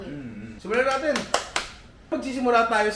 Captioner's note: claps